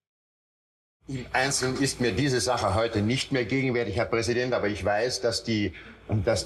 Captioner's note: Eichmann speaking German